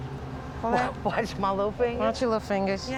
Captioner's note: laughs